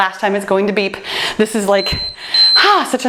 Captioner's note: timer beeps